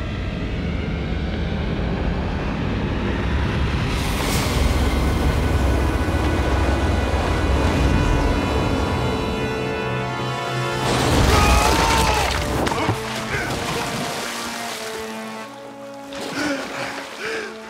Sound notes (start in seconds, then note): 11.2 screaming